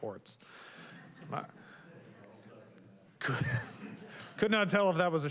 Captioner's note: councilors chattering indistinctly